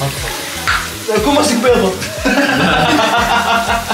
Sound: everyone laughs

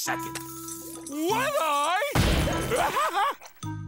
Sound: laughing

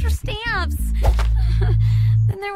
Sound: giggles nervously

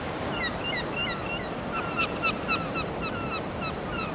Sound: seagulls squawking

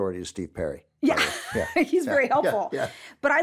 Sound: laughs

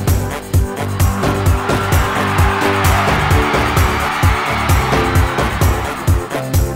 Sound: cheering

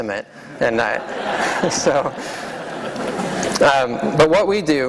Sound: laughter

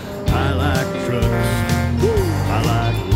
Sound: horn blows

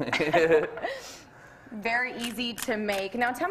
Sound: both laughing

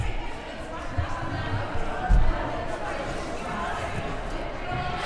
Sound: crowd chattering

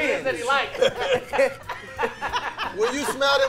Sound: laughing

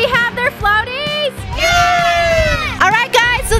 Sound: crowd

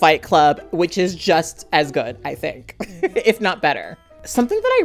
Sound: laughing

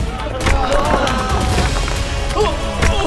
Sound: moaning; thud

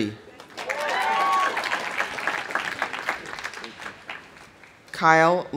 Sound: audience applauding; audience cheering

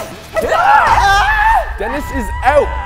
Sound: excited fighting; screams

